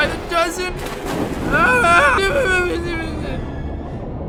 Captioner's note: underwater Screams